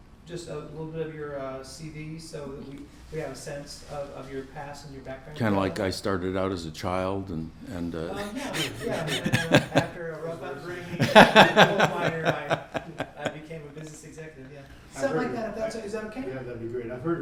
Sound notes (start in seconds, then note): 10.7 laughter